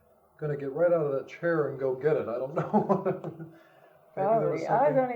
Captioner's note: laughs